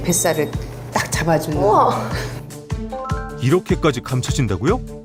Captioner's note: voiceover